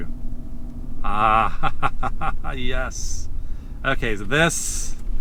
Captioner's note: laughs